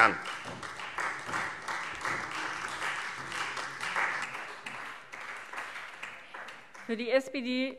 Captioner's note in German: Beifall Freie Demokraten